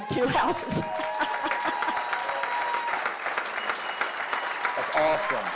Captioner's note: cheering